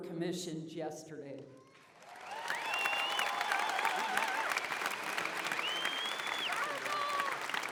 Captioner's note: applause, cheering